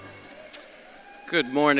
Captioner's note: audience cheers